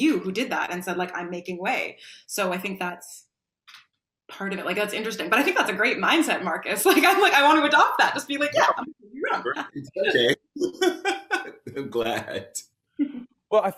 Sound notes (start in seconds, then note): 9.2 laughs